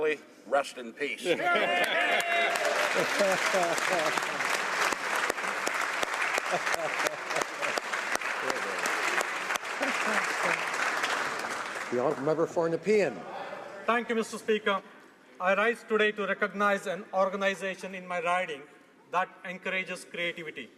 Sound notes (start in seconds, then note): 8.9 applause